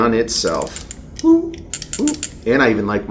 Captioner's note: gun trigger clicks